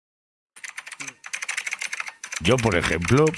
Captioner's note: keyboard clicks